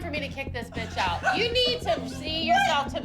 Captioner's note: laughs